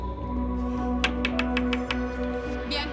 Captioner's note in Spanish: Toques en la puerta